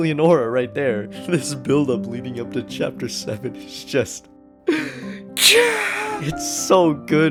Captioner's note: inhales